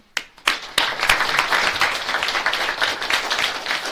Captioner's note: audience claps